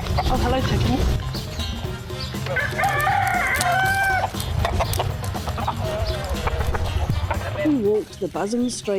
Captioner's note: chickens clucking and crowing